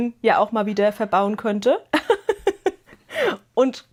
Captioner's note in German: Gelächter